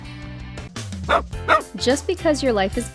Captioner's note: cheerful music; dog barks